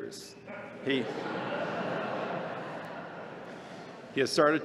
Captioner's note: laughter